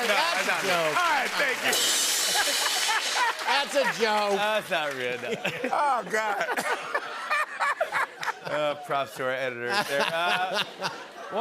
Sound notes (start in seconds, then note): 6.8 laughter